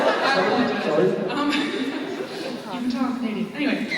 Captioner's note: laughs